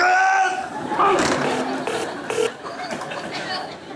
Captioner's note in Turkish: Telefon sonunda kapanır